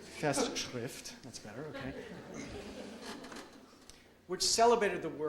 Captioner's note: audience laughs